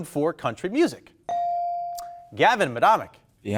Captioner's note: bell dinging